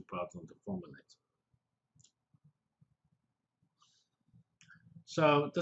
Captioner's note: pause